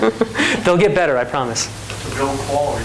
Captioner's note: laughs